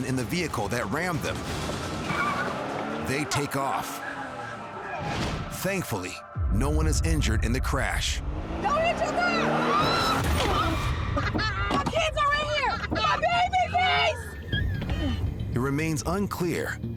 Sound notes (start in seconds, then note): 2.0 engine revving; 9.6 shrieking